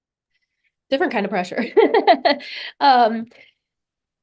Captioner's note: laughs